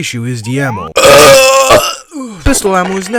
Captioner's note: burps